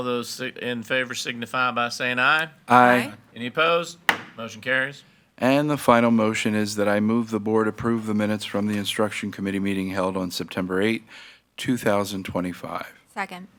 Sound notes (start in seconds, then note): 4.0 gavel bangs